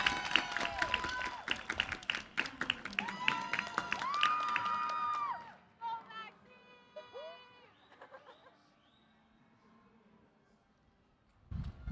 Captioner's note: cheers